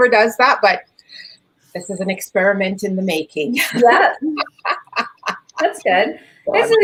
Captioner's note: laughs